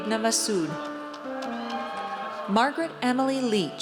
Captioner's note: audience cheers